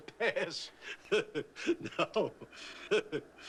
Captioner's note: chuckling